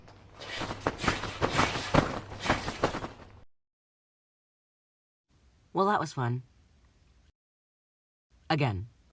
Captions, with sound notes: (trampoline sounds) well that was fun... again